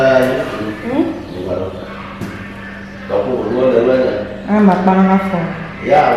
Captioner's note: speaking in foreign language